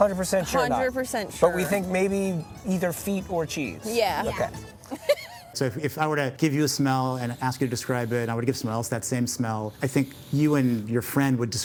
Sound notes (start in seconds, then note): 4.8 laughing